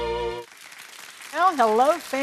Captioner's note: audience applauds